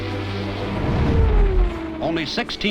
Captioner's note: engine roars; cross-fade whooshes